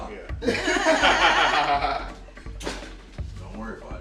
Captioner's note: all laughing